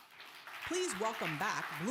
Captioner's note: audience applause